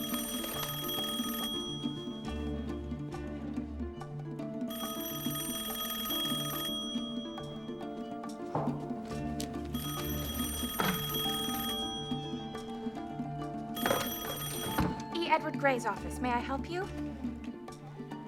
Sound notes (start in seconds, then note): 0.0 rings; 5.4 rings; 10.1 rings; 14.3 rings